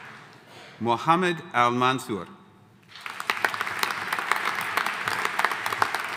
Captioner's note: audience applauding